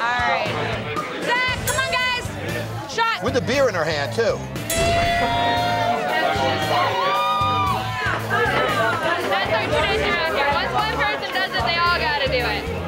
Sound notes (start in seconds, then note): 4.6 bell dinging; 5.1 cheering